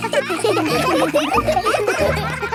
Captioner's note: children laughing